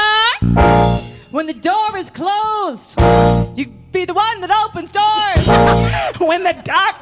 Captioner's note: laugh